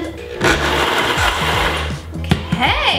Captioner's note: blender whirring